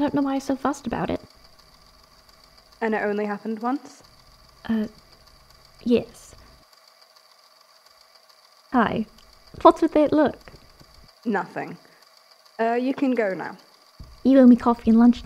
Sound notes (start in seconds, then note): 5.4 hesitates